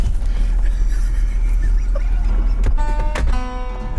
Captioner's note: laughing